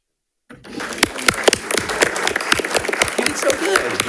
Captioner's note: audience applauding